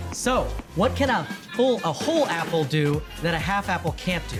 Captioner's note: laughing